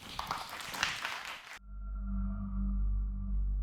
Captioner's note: audience applause